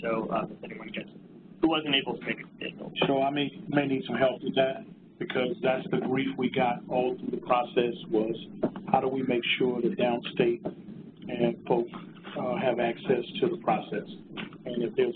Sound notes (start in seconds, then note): 3.6 pat